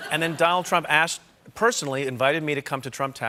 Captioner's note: laughter